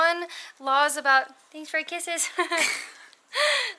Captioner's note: laughter